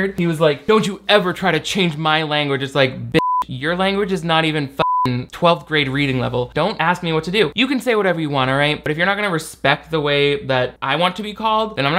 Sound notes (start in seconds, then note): 3.2 beep; 4.8 beep